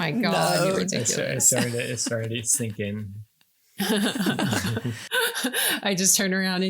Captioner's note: laughing